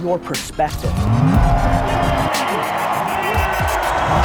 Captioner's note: cheering